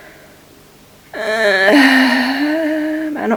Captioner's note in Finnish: turhautunut huokaus